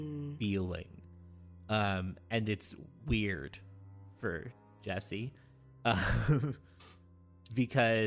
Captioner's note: chuckles